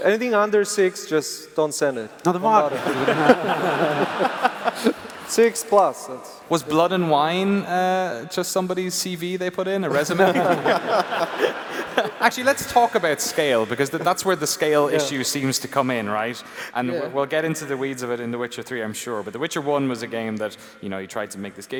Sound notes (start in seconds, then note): 2.3 laughs